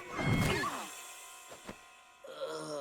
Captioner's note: both grunt